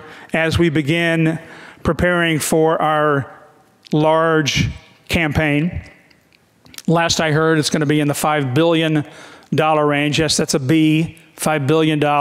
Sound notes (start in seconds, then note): none